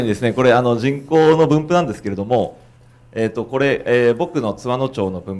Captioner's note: speaking foreign language